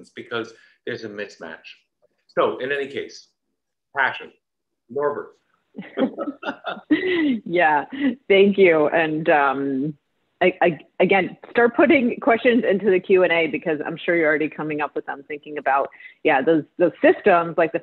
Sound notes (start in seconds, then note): 5.8 laughter